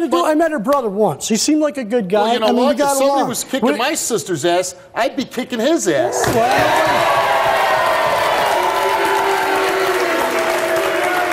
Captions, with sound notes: - It ain't nothin' to do. I met her brother once. He seemed like a good guy. - Well you know what? If someone was kicking my sister's ass, I'd be kicking his ass. (audience applauds)